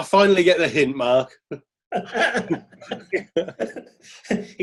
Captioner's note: laughing